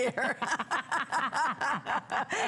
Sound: laughter

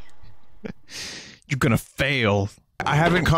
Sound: small Chuckle

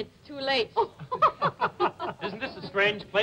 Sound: laughter

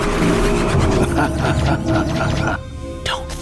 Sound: laughing

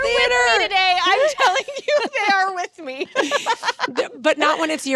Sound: laughs

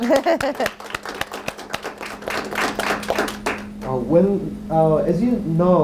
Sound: group applauds

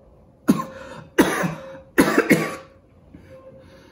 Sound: coughs

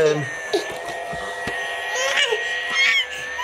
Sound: laughing

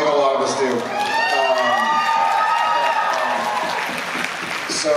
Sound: applause

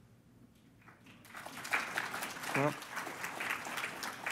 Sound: applause

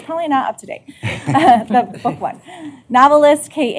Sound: laughter

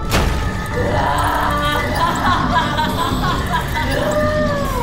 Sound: evil laughter

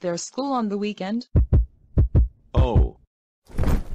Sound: heartbeats

